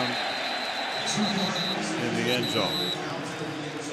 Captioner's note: whistle blows